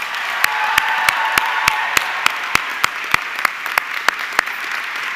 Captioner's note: audience clapping and cheering